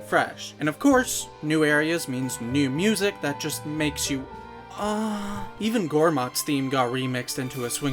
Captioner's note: moan